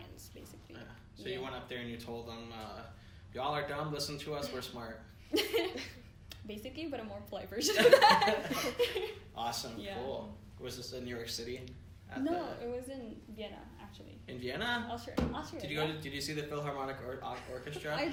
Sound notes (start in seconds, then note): 5.2 laughing; 7.8 laughing; 14.5 thumps